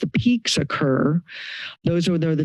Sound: inhales

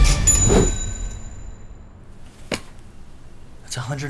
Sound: Registratore di cassa SUONI

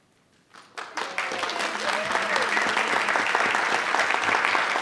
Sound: audience applauding

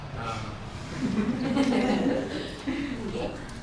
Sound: laughter

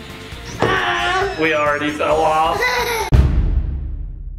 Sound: giggles

